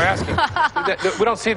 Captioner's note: laughs